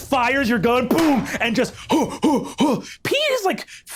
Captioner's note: imitates whomping